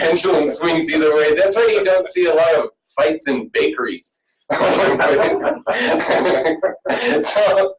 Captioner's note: laughing